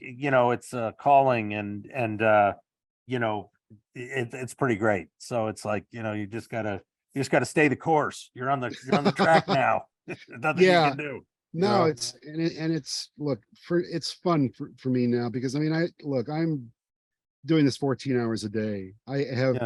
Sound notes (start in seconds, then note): 8.7 laughing